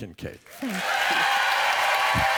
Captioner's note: applause